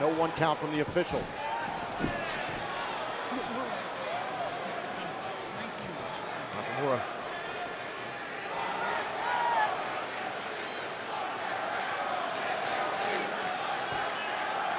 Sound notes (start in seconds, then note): 10.6 audience chanting